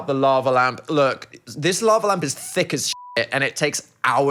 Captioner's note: beep